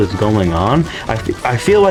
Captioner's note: inhales Oxygen